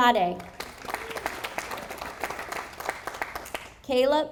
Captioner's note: audience applauding